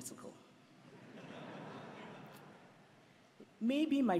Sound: laughter

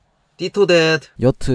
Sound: in hebrew

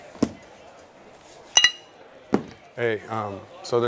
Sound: bottles clink

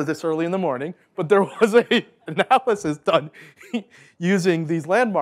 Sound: laughing

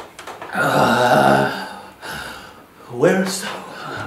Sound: grunting and crying

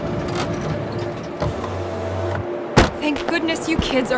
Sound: car Sounds

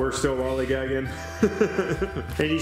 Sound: laughs

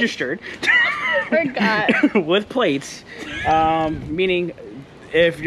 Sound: laughing

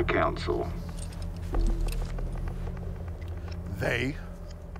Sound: lightsaber jiggles

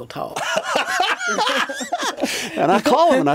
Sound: both laugh

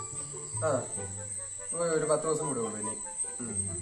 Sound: lying with scorn

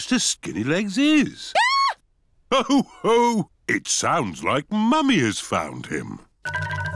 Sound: mummy pig screams

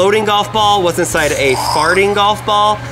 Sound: mimics explosion

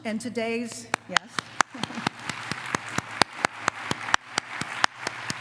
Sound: applause

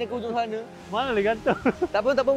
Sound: laugh

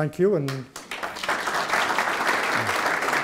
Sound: applause

